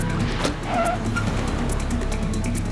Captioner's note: tires screech